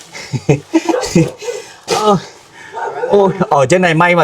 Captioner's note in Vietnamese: tiếng cười